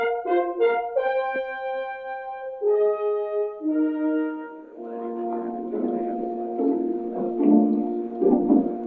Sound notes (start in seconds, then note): 4.6 indistinct chattering